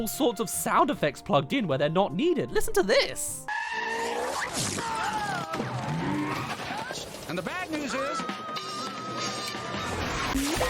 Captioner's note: bike crashing through